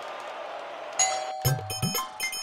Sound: doorbell rings

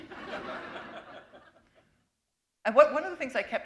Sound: laughter

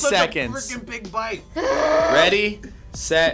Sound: groans

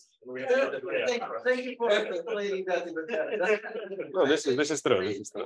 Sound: group chattering

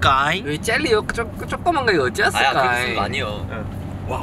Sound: in Jeolla dialect

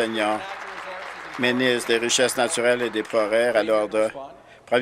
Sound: applause

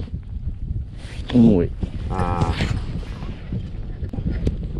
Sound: ah

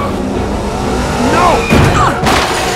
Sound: racing sounds; hitting sound

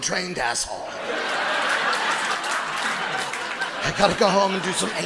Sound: audience laughs

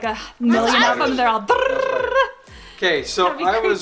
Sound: rolls tongue

